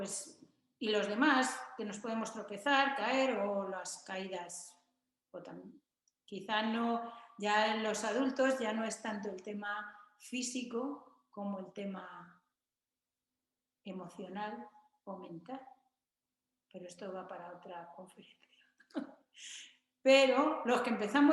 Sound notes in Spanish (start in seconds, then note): 18.8 risas